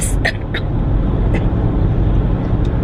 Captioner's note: coughing